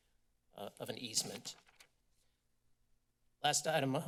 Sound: paper flipping

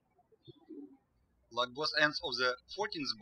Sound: birds chirping

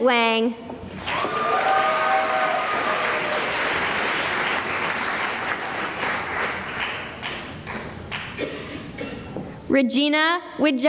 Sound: cheering and applause

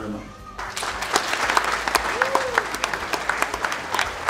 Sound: clapping

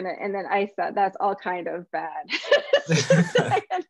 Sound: laughs

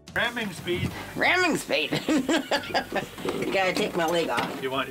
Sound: laughs

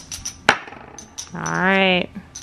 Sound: poker chips jingles

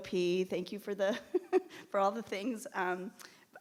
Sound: chuckles

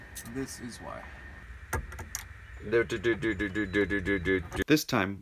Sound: humming soundtrack

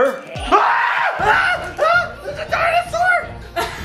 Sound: screams

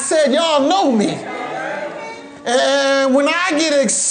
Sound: congregation murmuring

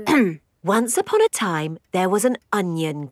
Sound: clears throat

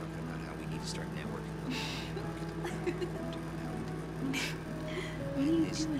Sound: woman laughing

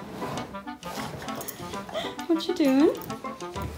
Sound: laughs

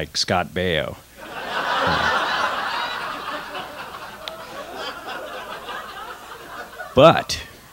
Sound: laughter

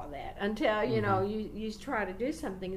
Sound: none

